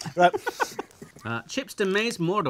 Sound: laughs

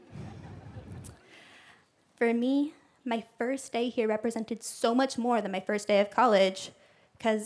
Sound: laughter

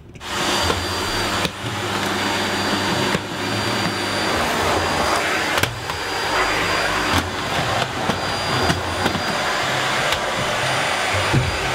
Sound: vacuum buzzing

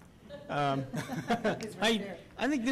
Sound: laughter

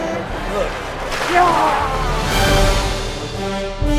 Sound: Gatorade splashing; dramatic orchestral music

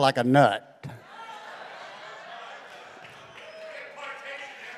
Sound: congregation laughing

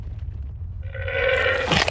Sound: llama exclaims

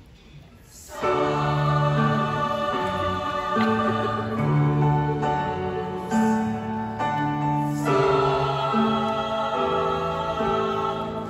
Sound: voices

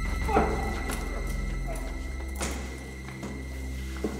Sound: crying out

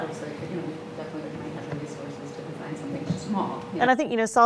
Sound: static drowns out talking

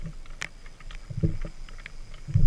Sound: spinning reel

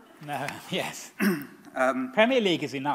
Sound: clears throat

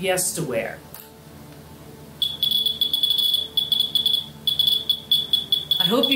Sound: high pitched beeping sound

